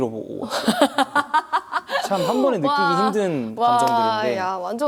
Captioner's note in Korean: 호탕한 웃음